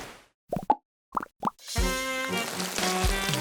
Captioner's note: popping